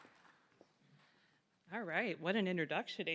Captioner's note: applause